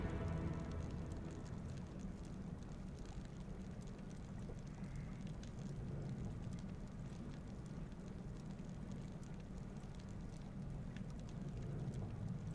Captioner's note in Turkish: Ateş çıtırtısı sesleri